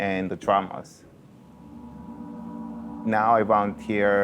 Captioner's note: gong sounds